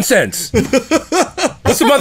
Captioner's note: laughter